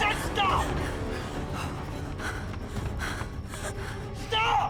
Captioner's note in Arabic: خطوات تجري، تلهث